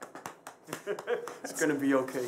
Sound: laughs

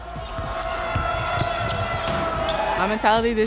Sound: crowd cheering

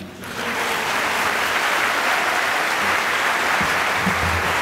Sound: applause

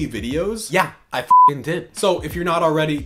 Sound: beep

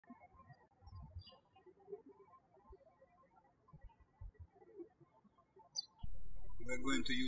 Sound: birds chirping

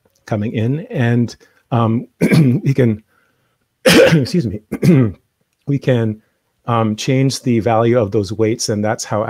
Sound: coughs

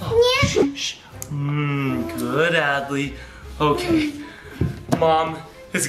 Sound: running water

